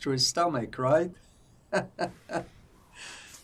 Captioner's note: laughing